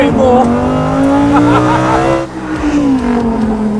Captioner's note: laughs